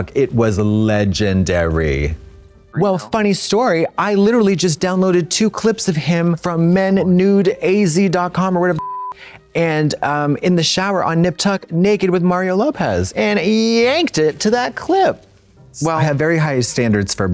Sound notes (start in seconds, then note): 8.8 beep